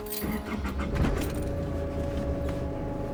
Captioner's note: car engine starts